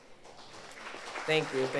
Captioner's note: audience applauds